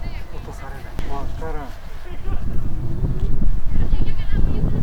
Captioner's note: the wind